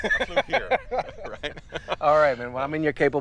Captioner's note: Baratunde laughs